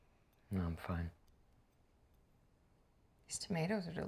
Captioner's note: none